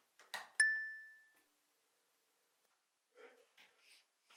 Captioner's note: bell dings